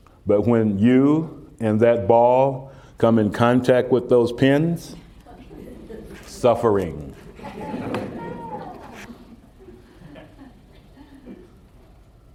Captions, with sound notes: but when you and that ball come in contact with those pins: suffering. (Laughter)